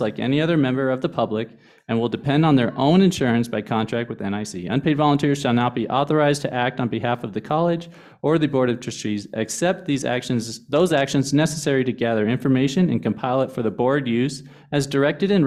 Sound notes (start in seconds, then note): none